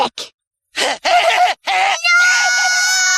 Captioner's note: laughing